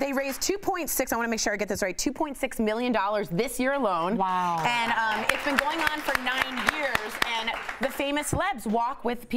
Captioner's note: cheers & applause